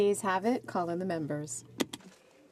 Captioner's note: speaking French